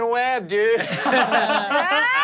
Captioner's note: everyone laughs